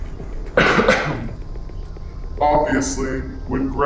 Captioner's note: Wanda X coughs